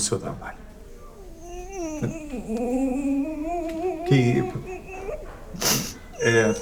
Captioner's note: holding back tears